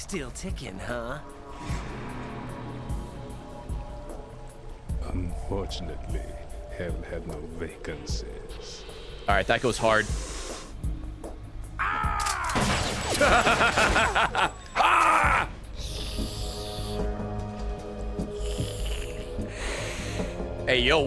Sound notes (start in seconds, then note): 13.1 laughs; 14.7 screams